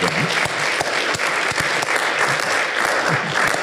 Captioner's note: audience applauds